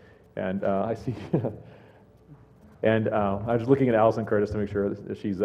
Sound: laugh

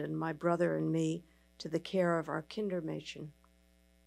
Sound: speaking in foreign language

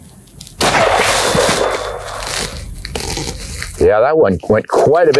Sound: gun shot

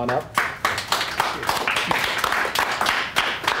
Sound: applause

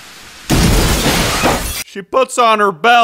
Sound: explosions

